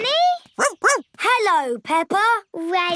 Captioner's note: barks; snorts